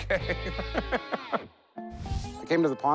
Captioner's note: laughs